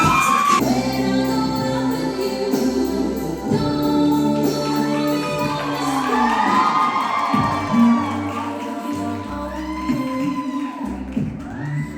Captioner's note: applause